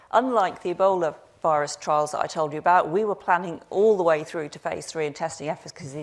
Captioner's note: none